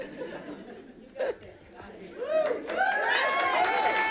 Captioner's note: audience applauding